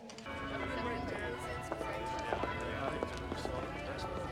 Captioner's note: bell tolling